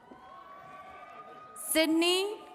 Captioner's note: attendees cheering and clapping